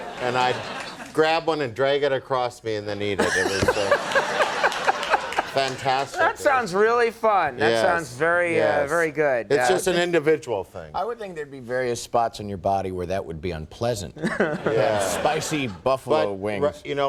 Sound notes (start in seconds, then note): 3.2 laughing